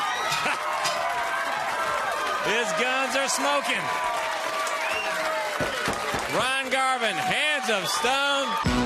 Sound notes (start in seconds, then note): 0.0 crowd cheering; 0.7 bell ringing; 5.4 crowd cheering